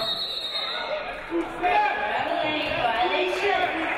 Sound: referee blows whistle

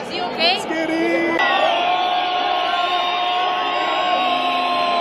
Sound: clap

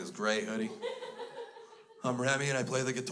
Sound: crowd laughs

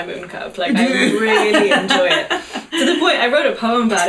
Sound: group laughter

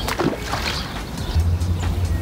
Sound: sounds of sploshing jumping fish turned up loud

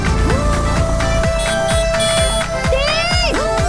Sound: honking

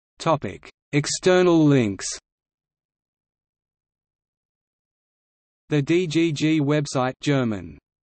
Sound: German

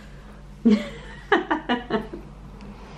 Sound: laughter

